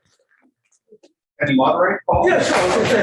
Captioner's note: indistinct conversation